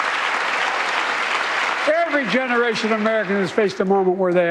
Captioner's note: cheers and applause